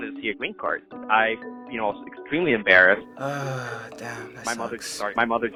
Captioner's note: sighing